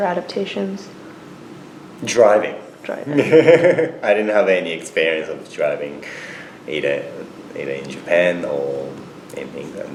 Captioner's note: laughs